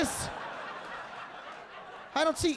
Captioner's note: audience laughing